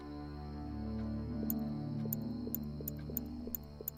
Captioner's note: clicking